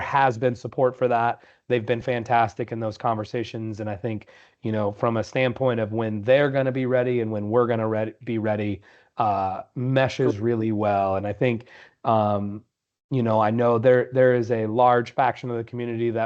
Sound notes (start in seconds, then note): none